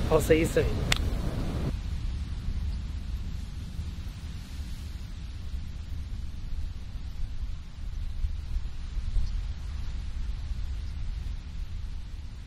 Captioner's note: ocean sounds